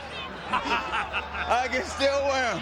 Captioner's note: chuckles